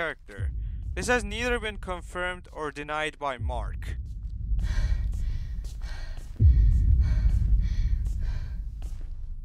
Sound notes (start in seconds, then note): 4.5 exhausted breathing